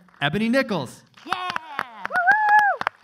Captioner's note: clapping